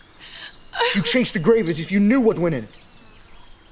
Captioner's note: screams